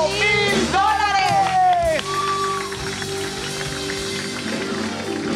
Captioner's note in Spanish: Aplausos